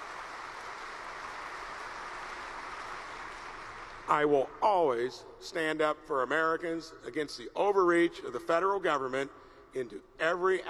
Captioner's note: applause